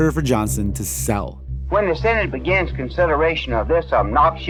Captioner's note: soundbite of archived recording